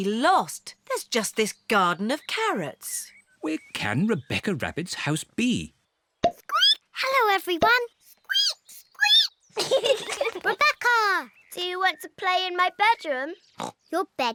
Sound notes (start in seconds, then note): 7.1 squeaks; 9.5 peppa and george giggling